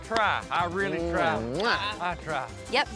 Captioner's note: smooch